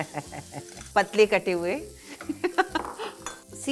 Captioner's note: Neena Chuckles; Neena chuckles